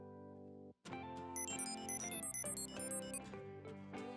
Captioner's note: beeping